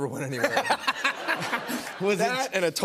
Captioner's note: laughter